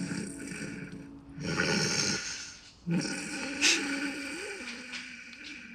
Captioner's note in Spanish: Ronquidos